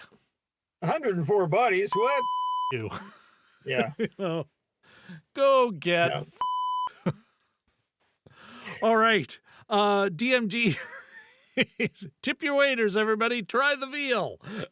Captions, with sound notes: 104 bodies, what? (beep) You. Yeah. Go get it. (beep) All right, DMD, (laughing) Tip your waders, everybody, try the veal.